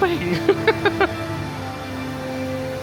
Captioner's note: laughing; dramatic music